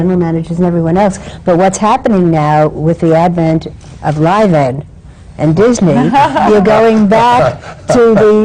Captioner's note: laughter